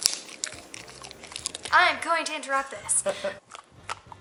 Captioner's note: giggles